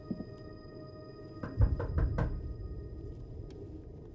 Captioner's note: knock on door